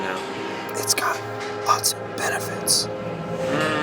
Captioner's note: ghostly Voice